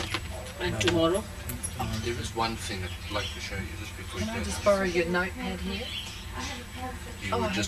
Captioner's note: yogis conversing